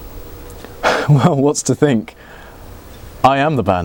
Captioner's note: laughs